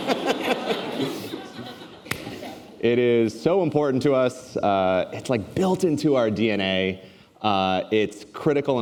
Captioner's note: laughter